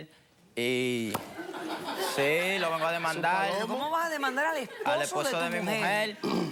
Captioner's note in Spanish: Risas